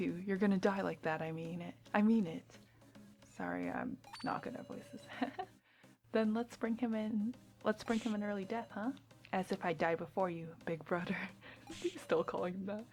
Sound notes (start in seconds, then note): 5.0 gigggles